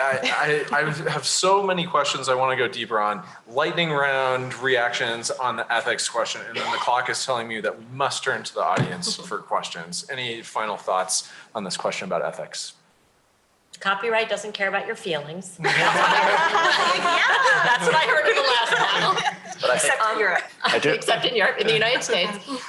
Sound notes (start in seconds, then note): 15.6 laughter